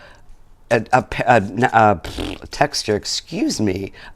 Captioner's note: blows a raspberry